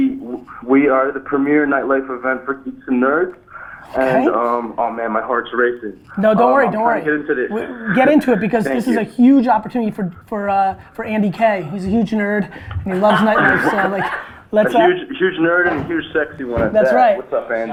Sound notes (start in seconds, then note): 12.5 group laughter